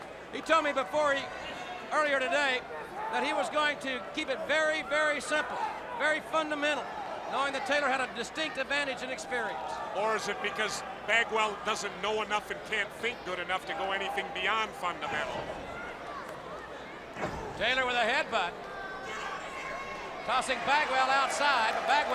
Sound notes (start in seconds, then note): 15.6 crowd chatter